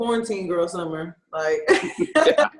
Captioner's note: laughs